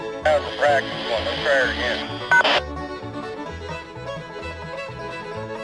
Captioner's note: voiceover